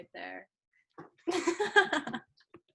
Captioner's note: laughs